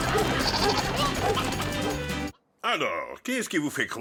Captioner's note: goat bleats, chickens cluck